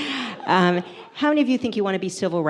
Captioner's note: audience laughs